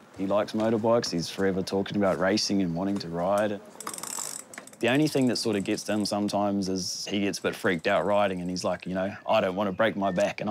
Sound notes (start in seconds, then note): none